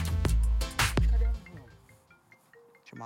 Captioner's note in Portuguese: toque de celular